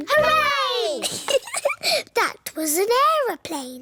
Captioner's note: giggles